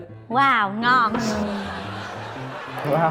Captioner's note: laughing